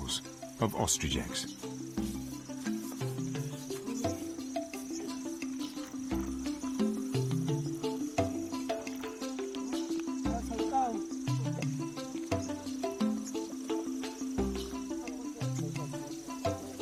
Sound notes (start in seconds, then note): 2.5 dramatic music; 2.5 speaking in foreign language